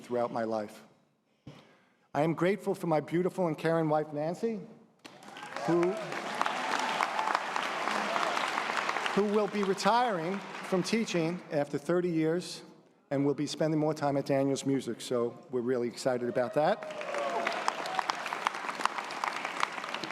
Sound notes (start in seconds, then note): 5.1 audience applause